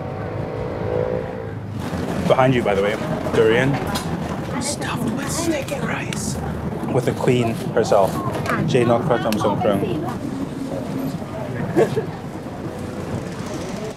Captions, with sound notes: [motor bikes roars] Behind you, by the way, Durian stuffed with stinking rice, with the QUEEN, herself, Jay Nok Kraton Song Krueng. [crowd murmuring] [motor bike roars]